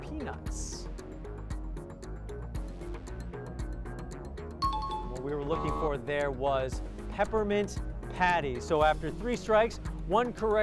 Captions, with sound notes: [bell ringing] What we were looking for there was Peppermint Patty. So after three strikes, one correct response on your three